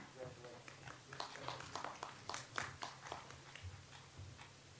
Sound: audience applauds

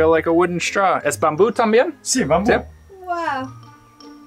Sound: speaking in foreign language

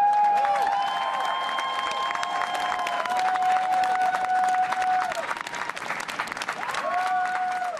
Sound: cheers and applause

